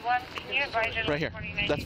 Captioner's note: radio chatter